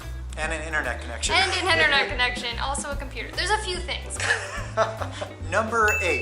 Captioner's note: laughter